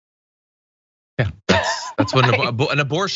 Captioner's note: laugh